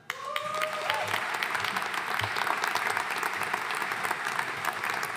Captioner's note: audience cheering and applauding